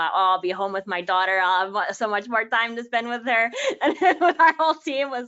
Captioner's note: laughing